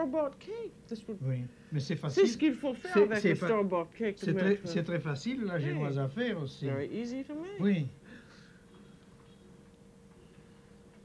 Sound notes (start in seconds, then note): 1.2 speaking French